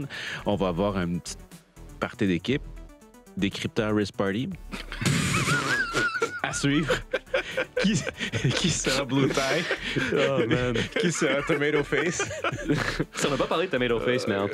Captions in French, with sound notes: prochaine, on va avoir un petit party d'équipe. Décrypteur Rizz Party? (rires) À suivre! Qui sera "blue tie"? - Oh man! - Qui sera "tomato face"? - On n'a pas parlé de "tomato face", mais en tout cas...